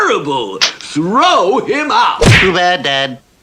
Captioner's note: smack!; splat!